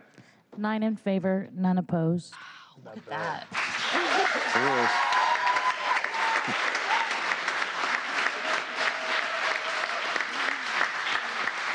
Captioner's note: applause